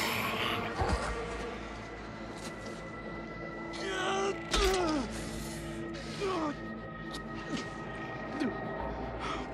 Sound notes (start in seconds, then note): 4.1 grunting; 4.1 squelching